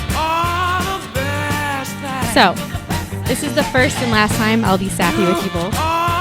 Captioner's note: talking